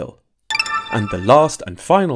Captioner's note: machine chiming